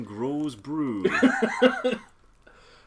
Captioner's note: laughs